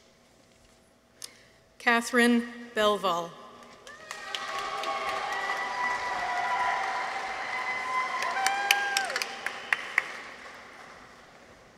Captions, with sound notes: Katherine Belval. -(people cheer) -(audience applauds)